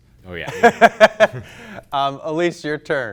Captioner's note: laughs